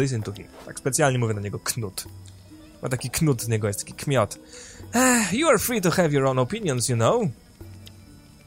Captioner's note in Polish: westchnięcie